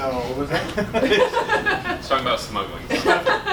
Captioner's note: laughter